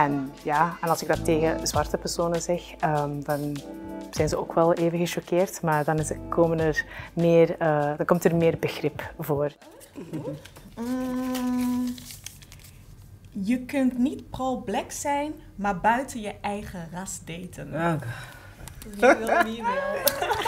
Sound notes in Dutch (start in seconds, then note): 19.0 gelach